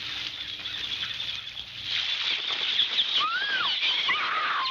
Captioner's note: screaming